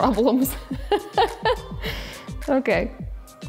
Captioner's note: laughing